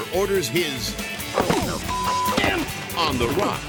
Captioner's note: beep; BASE jumper thuds